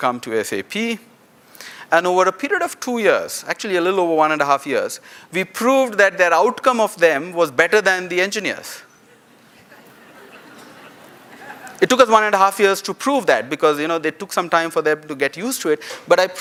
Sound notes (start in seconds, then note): 11.7 laughter